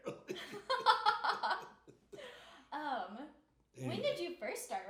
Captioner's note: laughing